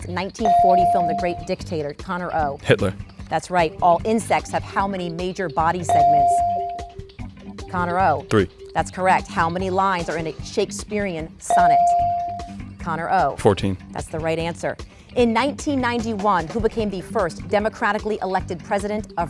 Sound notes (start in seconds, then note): 0.4 bell dings; 5.9 bell dings; 11.5 bell dings